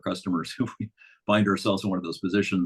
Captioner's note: chuckles